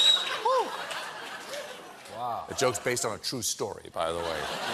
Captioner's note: laughter